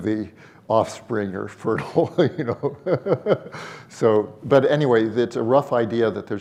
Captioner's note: laughs